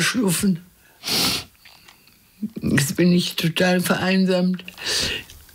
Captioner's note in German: Schniefen